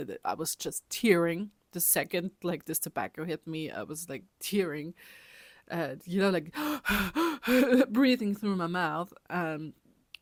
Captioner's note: heavy breathing